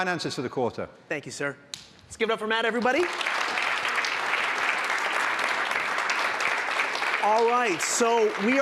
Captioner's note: applause